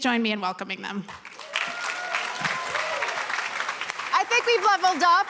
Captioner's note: cheering, applause